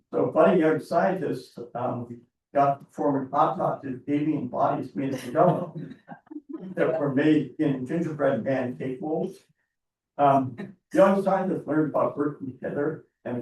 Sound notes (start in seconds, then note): 6.2 board members chuckling